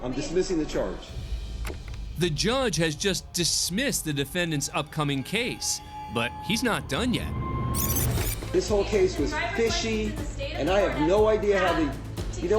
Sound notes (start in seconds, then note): 7.6 rewind sounds